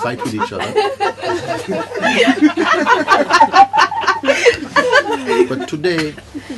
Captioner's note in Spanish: risas